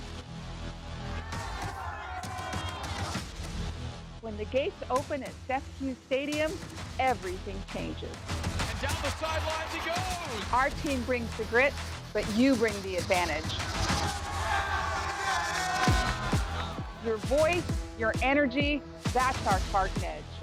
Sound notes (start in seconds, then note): 13.2 cheering